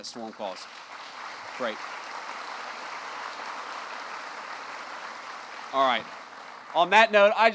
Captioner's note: applause